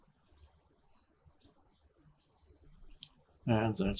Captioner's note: birds chirping